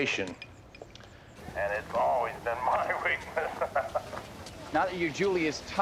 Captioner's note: laughs